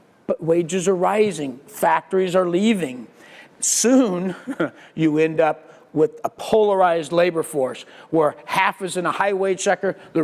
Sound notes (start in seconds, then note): 4.0 laugh